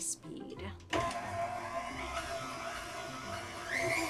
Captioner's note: mixer whirring